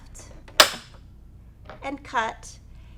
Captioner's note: click